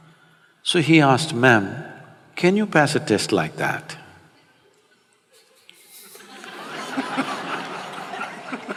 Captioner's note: laughter